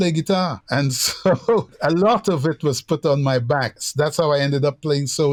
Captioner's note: laughter